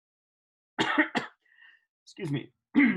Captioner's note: clears throat